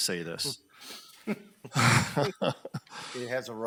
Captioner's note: laughs